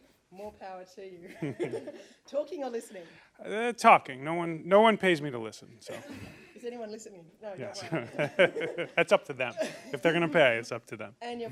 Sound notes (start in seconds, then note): 1.2 laughter; 5.9 laughter; 7.7 laughter